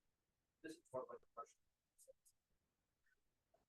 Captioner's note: speaking faintly